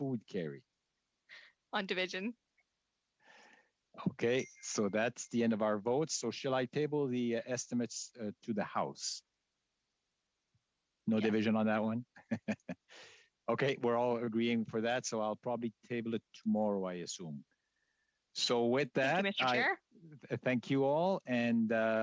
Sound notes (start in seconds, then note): 16.4 chuckles